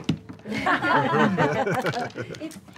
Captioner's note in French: rires